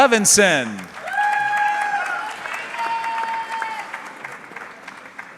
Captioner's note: audience cheering